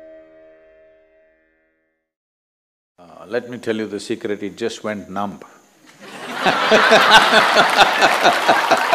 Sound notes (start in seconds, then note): 6.0 laughter/Applause; 6.0 笑聲/掌聲